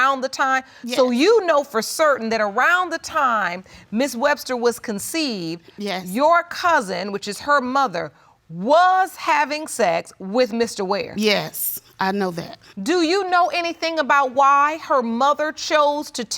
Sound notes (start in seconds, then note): none